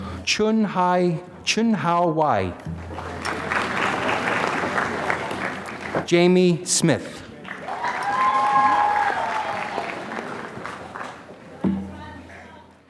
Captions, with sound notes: Chun Hi, Chun Hǎo Wei. (applause) Jamie Smith. (applause)